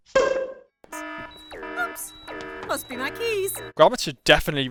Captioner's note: siren